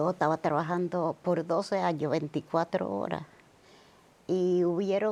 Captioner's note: speaking Spanish